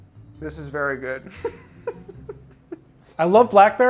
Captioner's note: laughs